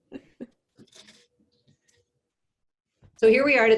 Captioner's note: laughs